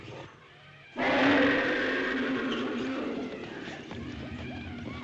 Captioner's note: roaring